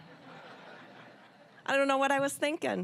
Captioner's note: audience laughing